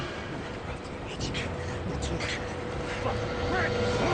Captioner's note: Alex whispers indistinctly